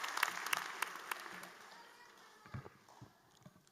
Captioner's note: applause